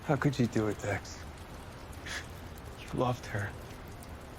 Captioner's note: scoffs